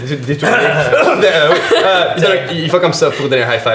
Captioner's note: they clear their throats